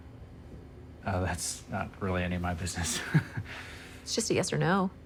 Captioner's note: laughs nervously